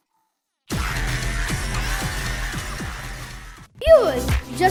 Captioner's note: screams